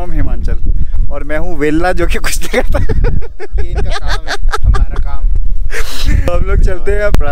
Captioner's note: laughs